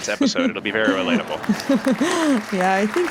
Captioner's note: laughter and applause